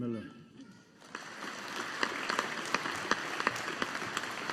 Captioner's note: audience applauding